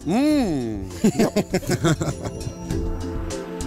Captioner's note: laughter